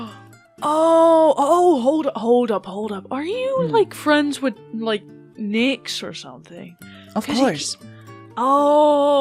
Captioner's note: gasps